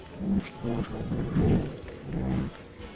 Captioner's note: speaking in foreign language